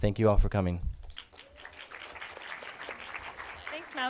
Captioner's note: clapping